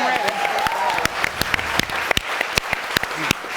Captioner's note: audience applauding